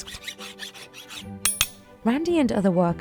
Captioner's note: metallic tools clink